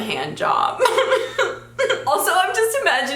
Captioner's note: giggles